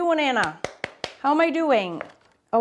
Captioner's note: hands clapping